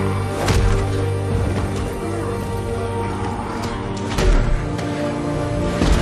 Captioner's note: roaring